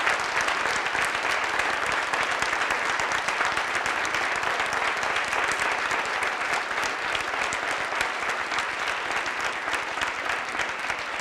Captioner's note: applause